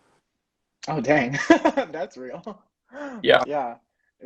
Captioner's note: laughing